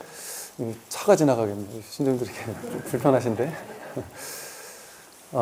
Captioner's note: laughs